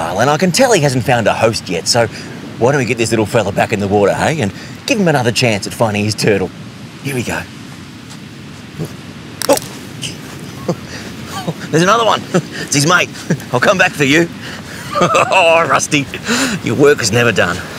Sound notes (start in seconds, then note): 10.0 laughs; 14.6 laughs